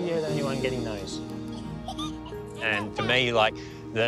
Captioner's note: giggles